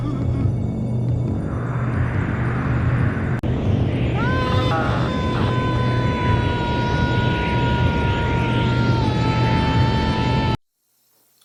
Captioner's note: screaming